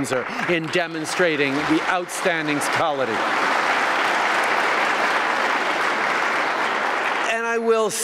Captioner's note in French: Applaudissements